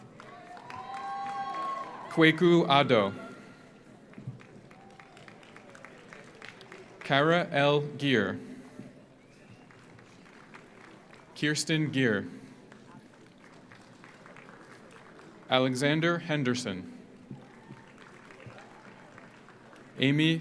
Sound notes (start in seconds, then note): 0.0 audience applauds; 0.1 audience cheers; 4.0 audience applauds; 9.4 audience applauds; 12.6 audience applauds; 17.2 audience applauds